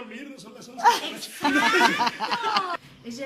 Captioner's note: laughter